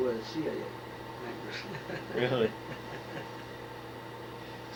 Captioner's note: laughs